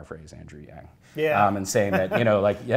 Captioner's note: laughs